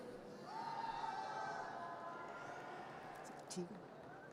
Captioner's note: audience cheers